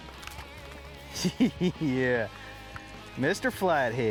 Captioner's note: laughing